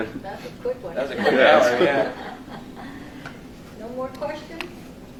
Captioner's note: laughter